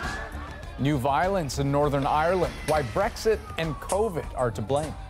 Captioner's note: sirens